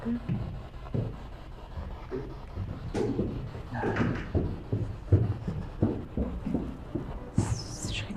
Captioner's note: radio noise from the spirit box